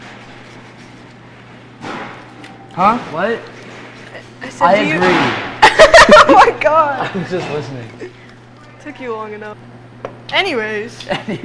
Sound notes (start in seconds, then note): 0.0 zester grating; 5.6 laughs; 5.6 laughing